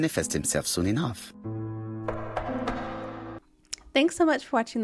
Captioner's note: knock, Knock, Knock